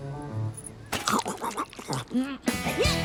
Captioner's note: munching